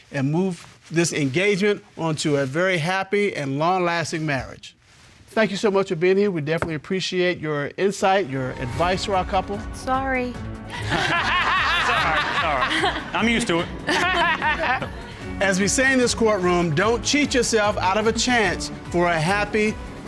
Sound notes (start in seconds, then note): 10.7 laughing; 10.7 audience laughing; 13.8 laughing